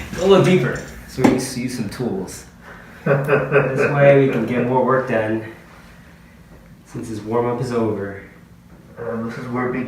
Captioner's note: camera man laughing